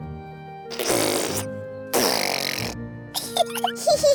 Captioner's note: sputtering; both giggling